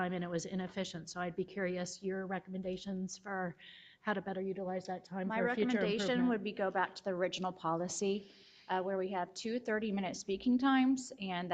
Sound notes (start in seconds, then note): none